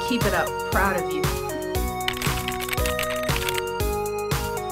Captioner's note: keyboard tapping